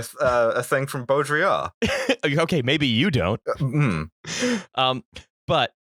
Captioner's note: laughter